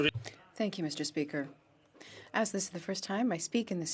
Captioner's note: speaking French